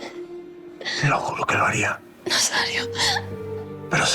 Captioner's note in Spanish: Sollozos